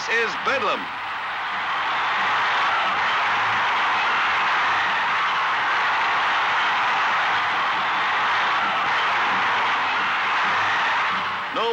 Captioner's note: cheering